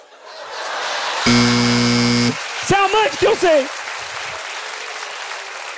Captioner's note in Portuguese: campainha